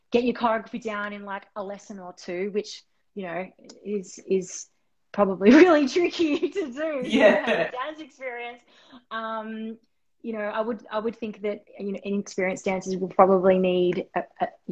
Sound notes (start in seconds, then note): 7.0 laughing